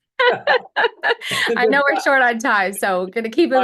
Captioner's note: laughs